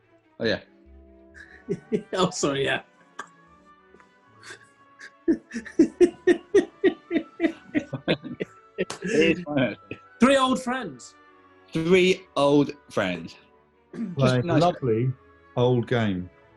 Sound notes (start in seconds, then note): 1.4 laughing; 5.0 giggling